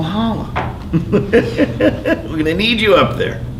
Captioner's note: laughing